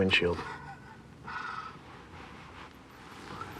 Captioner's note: chuckles